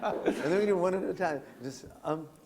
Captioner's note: laughter